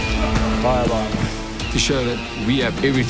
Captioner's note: grunting; Morne speaking in foreign language